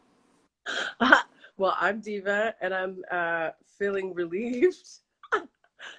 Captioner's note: laughs